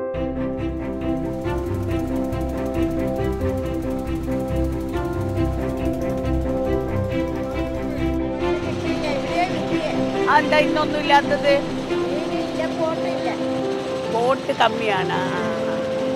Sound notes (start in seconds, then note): 0.2 uplifting music; 6.3 boat engine sound